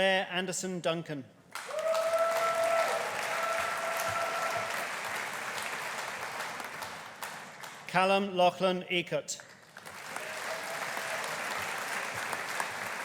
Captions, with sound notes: Blair Anderson Duncan. (AUDIENCE CHEERING) (AUDIENCE APPLAUDING) Calum Lachlan Eacott. (AUDIENCE APPLAUDING)